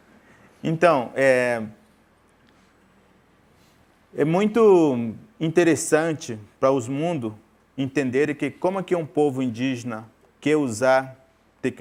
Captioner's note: speaking in portuguese